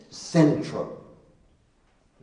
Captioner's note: none